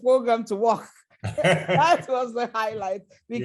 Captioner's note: laughter